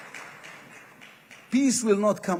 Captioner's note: applause